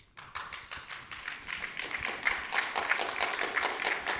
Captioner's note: audience applauding